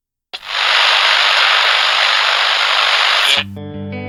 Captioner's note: camera buzzing